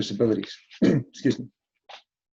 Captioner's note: clears throat